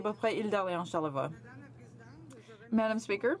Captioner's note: speaking French